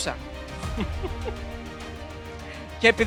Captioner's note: laughing